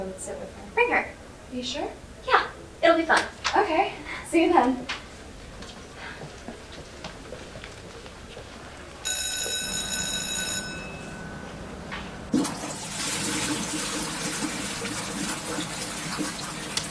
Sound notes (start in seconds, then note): 9.0 bell ringing; 12.2 toilet flushing